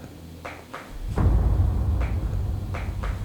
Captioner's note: knocking